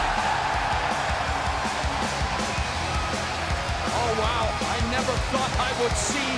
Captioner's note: crowd chatter